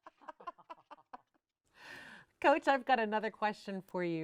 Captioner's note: laughing